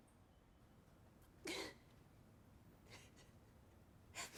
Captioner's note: sobbing softly